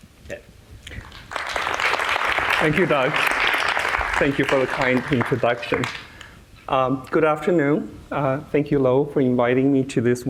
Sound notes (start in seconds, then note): 0.9 clapping